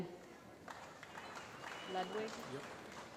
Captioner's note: applause